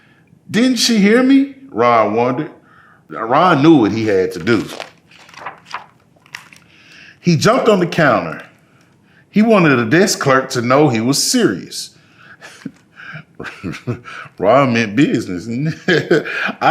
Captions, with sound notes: Didn't she hear me? Ron wondered. Ron knew what he had to do. (pages rustling) He jumped on the counter. He wanted the desk clerk to know he was serious. (chuckling) Ron meant business.